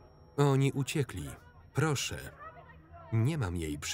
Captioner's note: faint shouting in distance